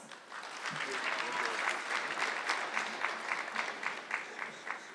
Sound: audience clapping

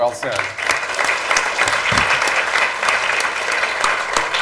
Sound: applause

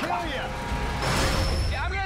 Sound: machinery whirs, clanks

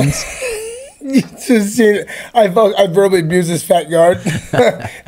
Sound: laughs

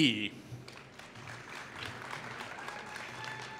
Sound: applause

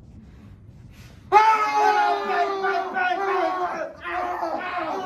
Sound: more intense battlecries and WWIII

